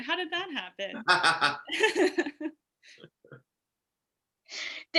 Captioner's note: both laugh